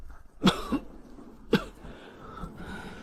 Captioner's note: cough